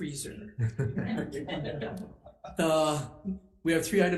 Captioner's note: group chuckling